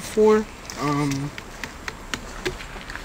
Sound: smack smack smack

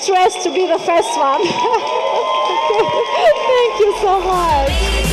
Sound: audience applauding and cheering; energetic music

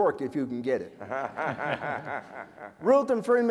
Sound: laughter

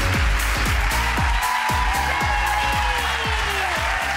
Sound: upbeat music; crowd applauds

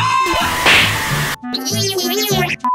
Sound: scream

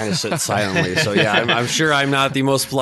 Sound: laughing

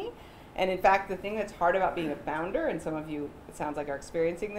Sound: none

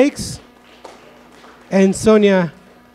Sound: audience clapping

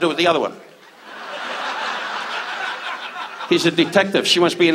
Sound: audience laughs

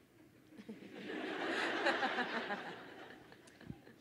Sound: crowd laughing

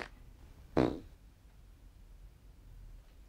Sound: tiny raspberry

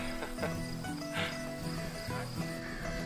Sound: laughs; gentle guitar music

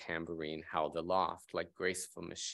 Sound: speaking in foreign language

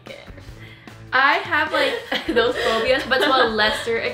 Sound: laughs

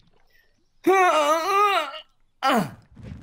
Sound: Detox grunting

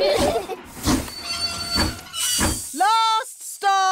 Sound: laugh; train chugs

